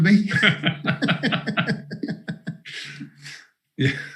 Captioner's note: both laughing